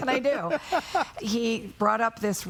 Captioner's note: laughing